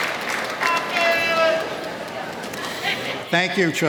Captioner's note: audience member yelling off microphone